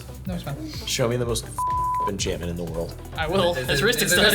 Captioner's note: beep